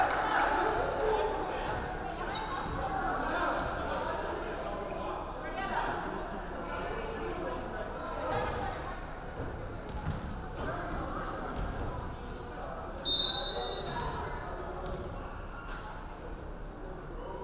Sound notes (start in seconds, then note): 13.0 referee whistling